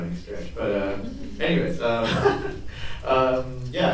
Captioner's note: awkward laughter